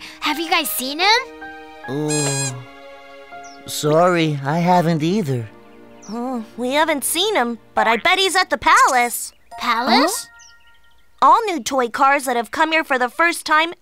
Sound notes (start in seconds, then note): 2.0 Blo groans; 2.1 Melo squeaks